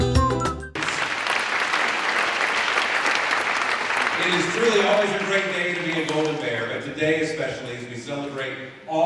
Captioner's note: applause